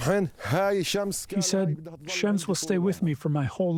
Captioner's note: through translator